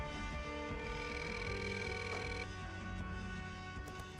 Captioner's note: ringing